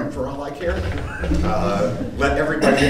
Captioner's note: audience laughing